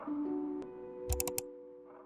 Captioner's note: 𝘥𝘰𝘶𝘣𝘭𝘦-𝘤𝘭𝘪𝘤𝘬